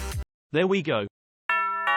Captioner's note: doorbell rings